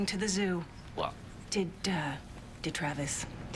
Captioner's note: none